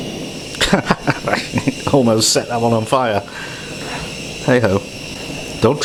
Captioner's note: laughs